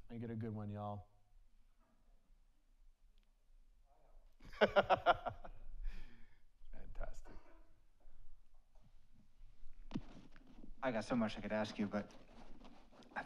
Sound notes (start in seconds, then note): 2.6 audience laughs; 4.5 laughs